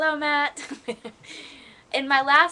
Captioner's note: laughter